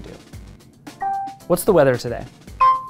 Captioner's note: pin beeping